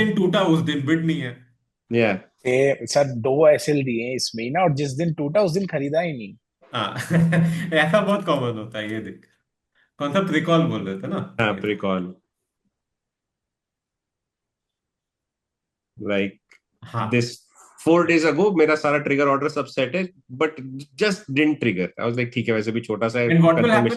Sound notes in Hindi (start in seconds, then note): 6.8 हंसी